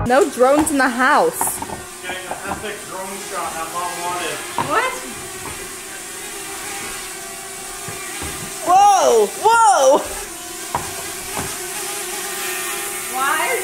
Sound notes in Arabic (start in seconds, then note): 6.3 أزيز الطائرات بدون طيار